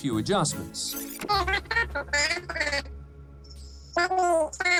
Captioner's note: high-pitched babbling